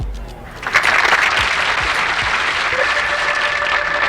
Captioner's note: audience applauds; organ music